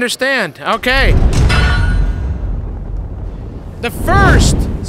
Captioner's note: metal clanks